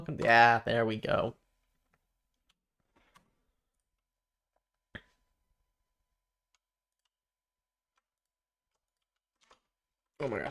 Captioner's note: silence